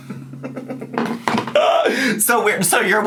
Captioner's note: laughs